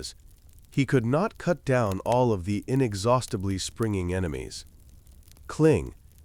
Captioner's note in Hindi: क्लिंग